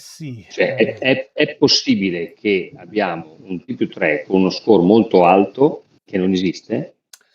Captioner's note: laughter